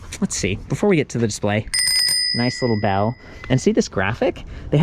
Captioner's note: bell dings